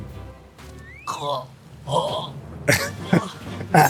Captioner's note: laugh